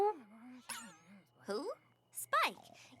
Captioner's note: poink!